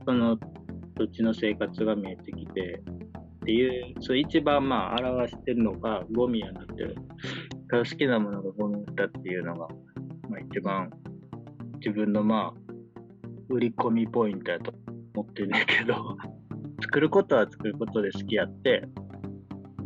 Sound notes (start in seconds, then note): 15.4 laughs